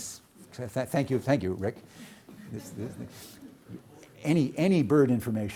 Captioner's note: audience laughing